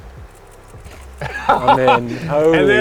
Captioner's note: laughs